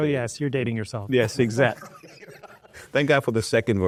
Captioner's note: both laugh